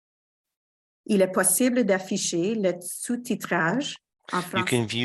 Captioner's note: speaking French